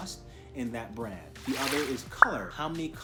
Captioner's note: swoosh pop